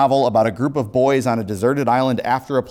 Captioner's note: none